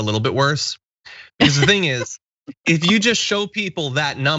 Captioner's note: laugh